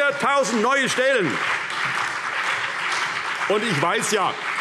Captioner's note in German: Beifall CDU und BÜNDNIS 90/DIE GRÜNEN